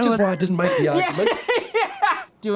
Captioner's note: laughs